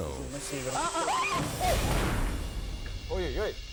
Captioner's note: dramatic music; hosts screaming; host speaking in Russian